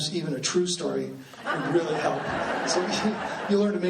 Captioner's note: laughing